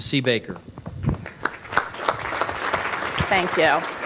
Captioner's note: applause